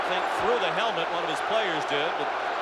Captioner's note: booing